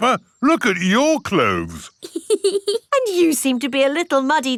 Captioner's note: laughs